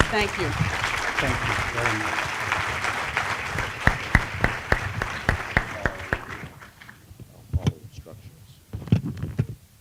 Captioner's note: applause